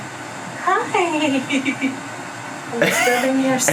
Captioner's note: laughs